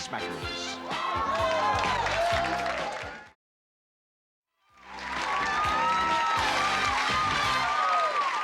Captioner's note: cheering